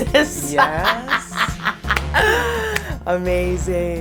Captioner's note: laughs